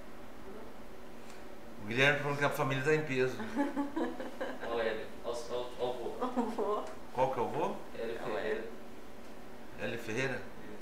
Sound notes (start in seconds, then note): 3.4 laughter